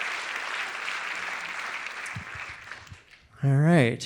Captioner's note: audience applauding continues